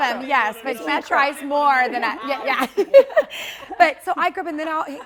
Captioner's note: laughs